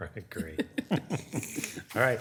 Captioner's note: laughing